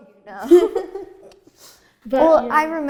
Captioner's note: laughing